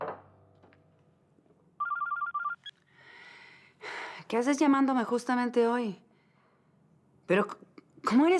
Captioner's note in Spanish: Suena el celular